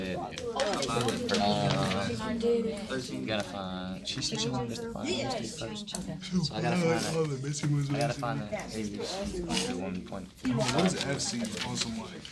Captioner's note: students murmurs